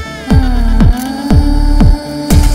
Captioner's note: Cameras clicking